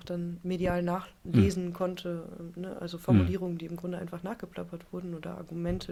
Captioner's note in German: räuspern